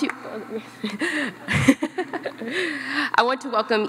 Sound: laughs

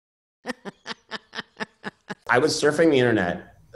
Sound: laughing

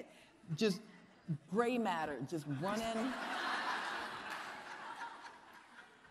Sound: audience laughing

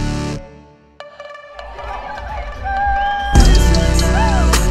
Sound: emotional cheering

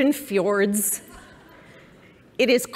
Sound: laughter

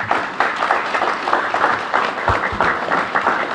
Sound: applause

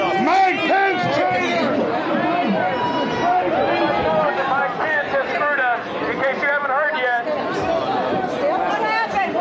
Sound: shouting

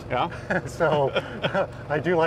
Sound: laughing

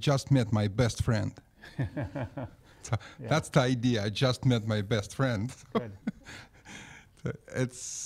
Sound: laughs

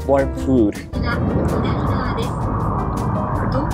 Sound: train annoucements in japanese

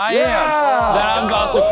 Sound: cheering

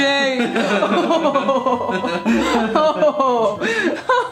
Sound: laughs

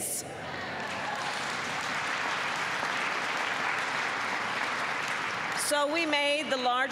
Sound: applause

